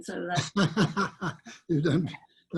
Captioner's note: laughs